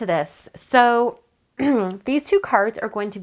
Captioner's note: clears troat